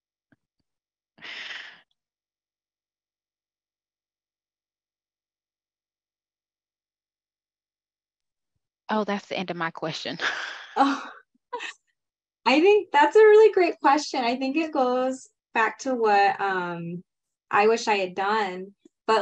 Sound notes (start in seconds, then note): 10.1 laughing